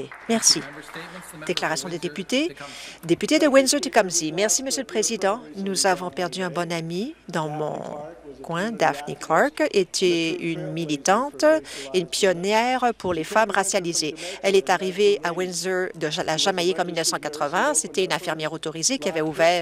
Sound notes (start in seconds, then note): 2.7 some applause